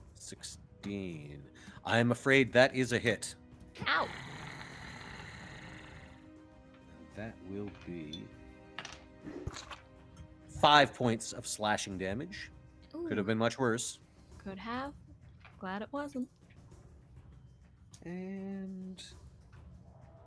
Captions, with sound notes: - 16... I'm afraid that is a hit. - Ow. (growling sound effect) - That will be... (bite sound effect) 5 points of slashing damage. Could've been much worse. - Could have. Glad it wasn't. - And Stronk...